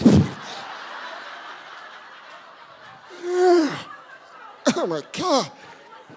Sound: audience laughing

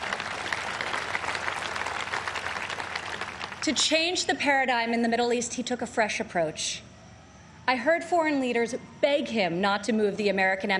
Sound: applause

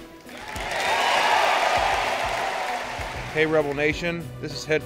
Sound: cheering

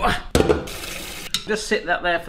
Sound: water running

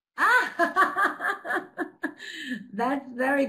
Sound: laughing

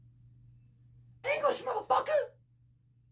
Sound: Impersonaiting Sam Jackson

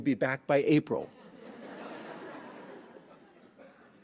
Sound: laughing

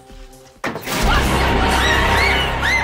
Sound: girls screaming

